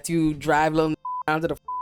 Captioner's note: beep